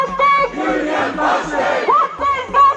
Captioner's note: crowd